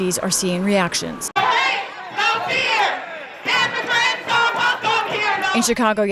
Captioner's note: chanting